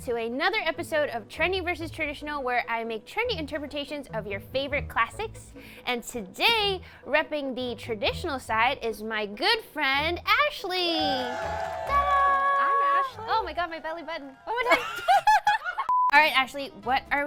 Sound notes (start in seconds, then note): 11.0 audience cheering; 14.4 laughs; 15.9 beeps